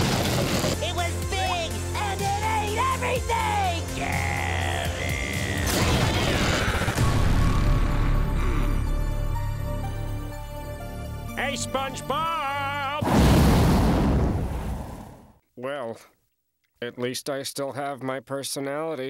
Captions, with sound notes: It was big and it ate everything! [groaning] Hey, SpongeBob! Well, at least I still have my personality.